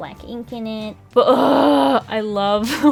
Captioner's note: urgh